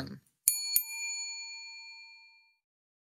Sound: bell ringing

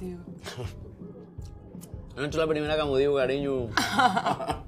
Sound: laughs

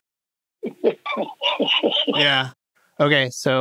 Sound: laughs

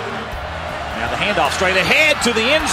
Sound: voiceover

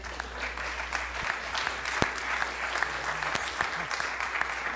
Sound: audience applauds

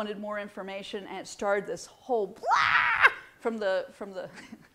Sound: screams

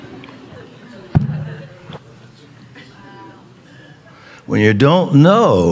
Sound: hand thumps

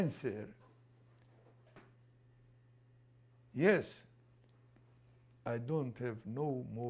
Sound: pauses for 3 seconds

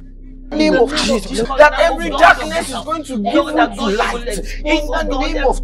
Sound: intense prayers

